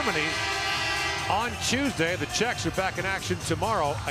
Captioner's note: horn